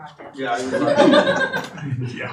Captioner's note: audience laughing